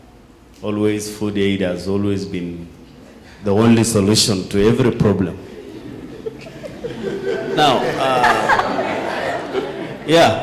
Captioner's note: laughing